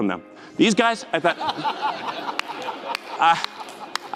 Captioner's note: crowd laugh